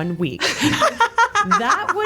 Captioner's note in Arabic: تضحك